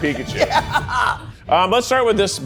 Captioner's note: laughing